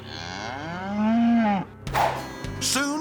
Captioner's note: cow mooing